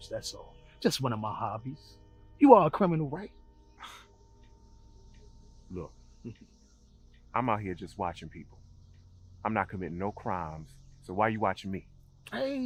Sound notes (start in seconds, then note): 3.8 scoffs